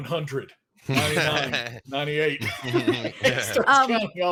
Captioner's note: group laughs